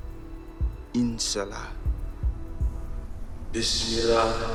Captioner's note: speaking in Arabic